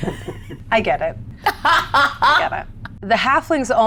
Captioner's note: laughs